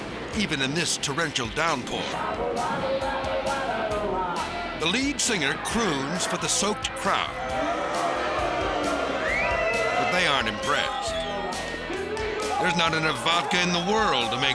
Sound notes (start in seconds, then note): 2.8 band singing in foreign language; 8.3 crowd booing and cheering